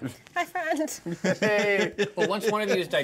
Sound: speaker laughs

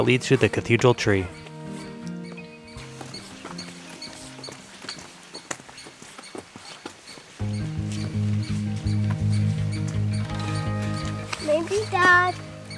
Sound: bird chirping sounds

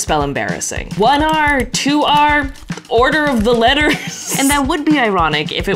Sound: laughs

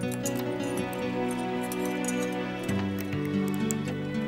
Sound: tools clattering

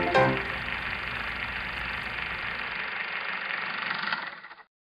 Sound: film projector running, winding down

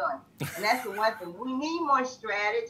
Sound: laughs

